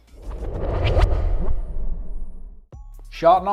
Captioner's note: transition whooshes; upbeat music